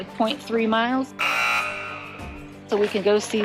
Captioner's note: buzzer sound